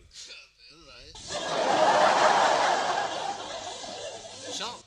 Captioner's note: laughter